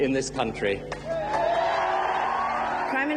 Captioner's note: crowd cheering